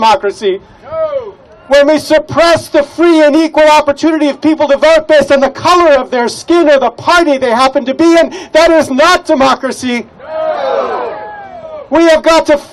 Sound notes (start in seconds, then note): 10.2 crowd: "Noo"